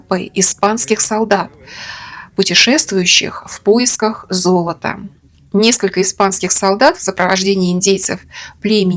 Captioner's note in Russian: тяжело вздыхает